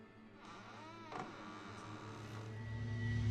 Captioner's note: door creaking; soft ominous music